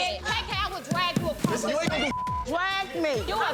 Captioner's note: beep